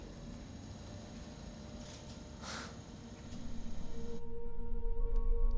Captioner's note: elevator thuds; elevator whirring; gentle ominous music